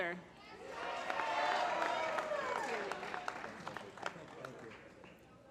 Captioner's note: applause